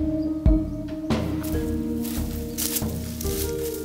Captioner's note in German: Rascheln